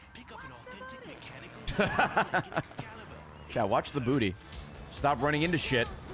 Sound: laughs

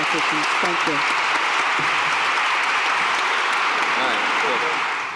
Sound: applause

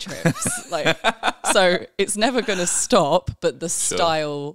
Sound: laughing

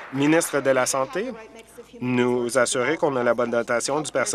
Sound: applause

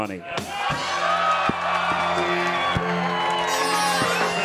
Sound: audience cheering

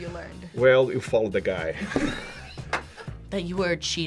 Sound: React laughs

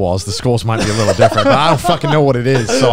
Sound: laughing

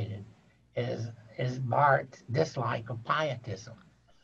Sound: laughing

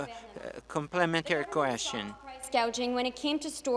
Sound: speaking French

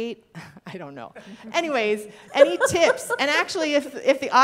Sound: people laughing

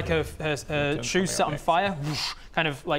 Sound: whoosh

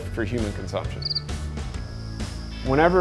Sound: cricket chirp

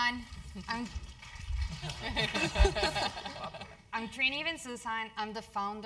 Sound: laugh

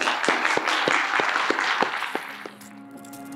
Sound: applause; audio logo

